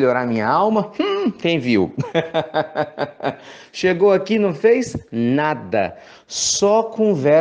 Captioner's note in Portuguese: risos